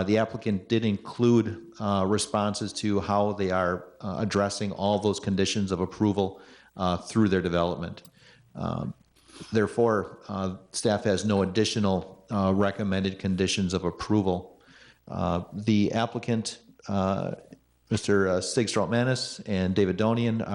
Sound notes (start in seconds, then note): none